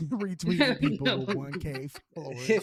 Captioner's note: laughing